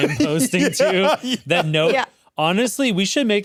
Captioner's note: laughs